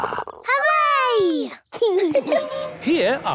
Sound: laughing

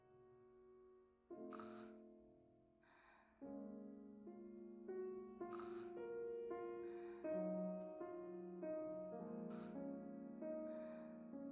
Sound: barking; gasps

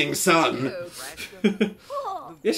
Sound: laughs

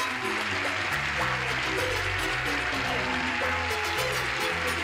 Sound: cheers and applause

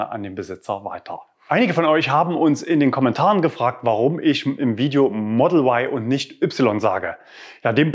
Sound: German

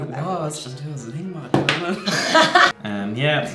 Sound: laughs

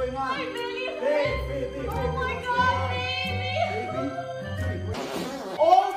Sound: farting noise

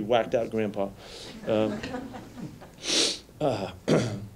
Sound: light laughter

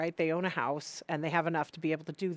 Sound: none

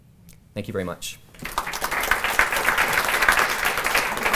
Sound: applause

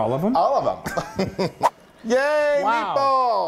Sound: laugh

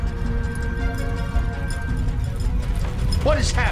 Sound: rumbling

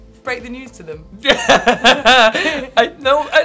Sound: Tan laughing

